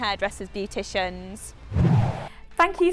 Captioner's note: swoosh